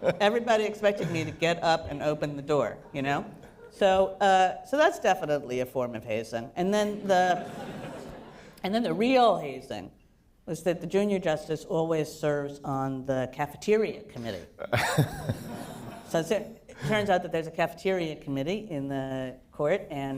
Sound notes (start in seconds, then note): 0.0 laughter; 7.0 laughter; 14.7 laughter